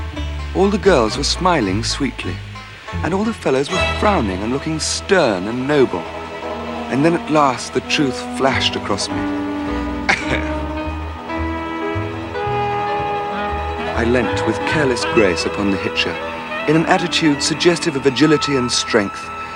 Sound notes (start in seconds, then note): 10.1 chuckles